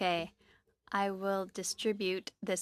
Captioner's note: speaking French